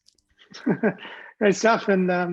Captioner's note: laughs